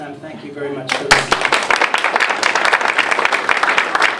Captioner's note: applause